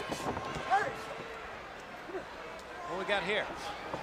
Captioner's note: crowd chatter